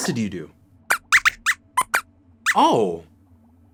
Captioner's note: squeaks squeaks